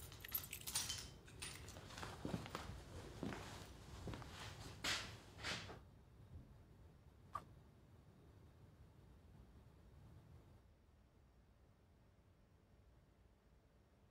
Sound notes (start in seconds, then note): none